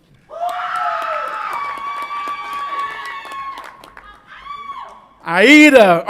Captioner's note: audience applauds and cheers